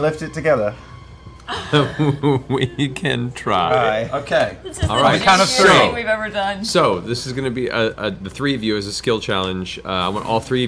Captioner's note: laughs